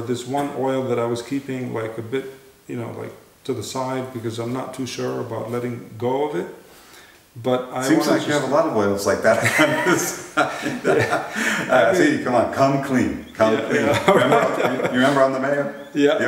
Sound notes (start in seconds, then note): 9.3 laughter